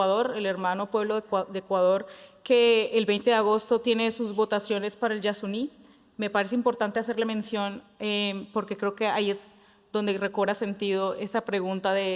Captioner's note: speaking Spanish